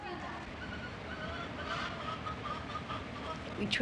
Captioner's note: outdoor Sounds